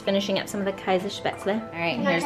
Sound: speaking in foreign language

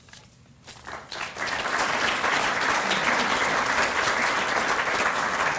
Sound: applause

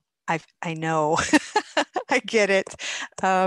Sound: laughs

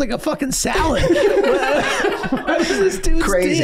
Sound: everyone laughing

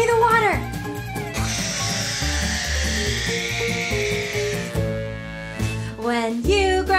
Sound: imitating water spraying

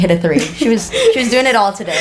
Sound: laughs

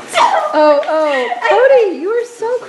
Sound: laughing

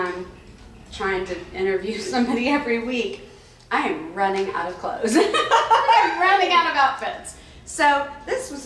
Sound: laughs

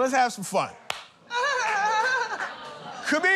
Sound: laughs nervously

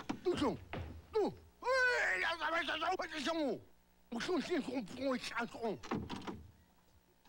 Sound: shouting angrily

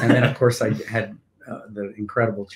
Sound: laughing

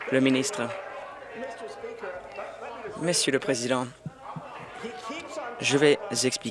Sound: applause

